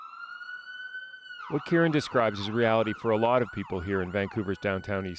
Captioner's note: siren